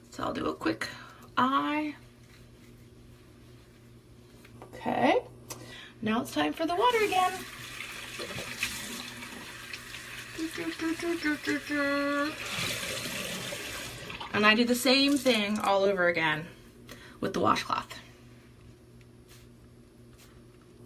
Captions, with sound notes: So I'll do a quick eye. Okay. Now it's time for the water again! (running water) (hums faintly) And I do the same thing all over again with the washcloth.